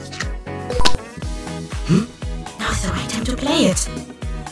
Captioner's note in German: Hmh...!